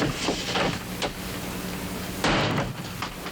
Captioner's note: door slamming